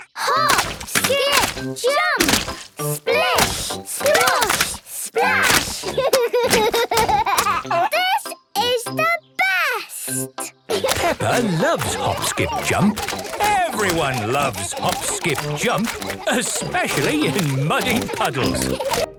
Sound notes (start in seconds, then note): 5.2 laughs